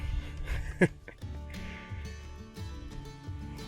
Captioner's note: chuckles